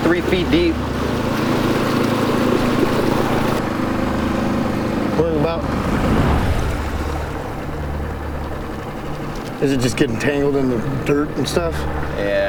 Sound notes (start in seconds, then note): 0.1 water splashing; 0.2 motor puttering; 5.6 water gurgling